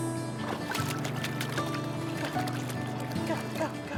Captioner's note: water splashes